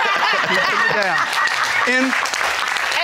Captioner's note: all laughing